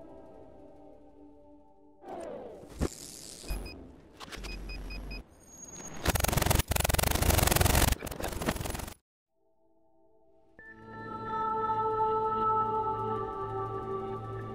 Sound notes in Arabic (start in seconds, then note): 2.0 إعادة لف صوتي; 2.0 صوت صفير